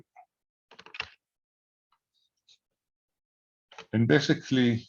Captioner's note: keyboard clicking